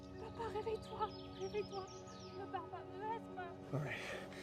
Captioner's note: speaks French